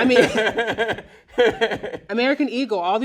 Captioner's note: laughs loudly